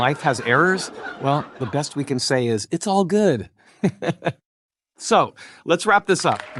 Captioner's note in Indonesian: tertawa